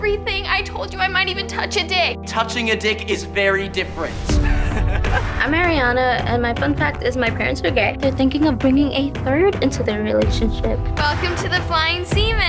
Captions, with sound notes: I told you I might even touch a dick. Touching a dick is very different. (LAUGHS) I'm Ariana, and my fun fact is my parents are gay. They're thinking of bringing a third into their relationship. Welcome to The Flying Seaman.